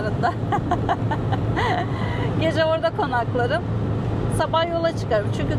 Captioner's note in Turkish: kahkaha